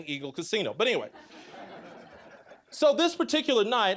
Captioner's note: audience laughing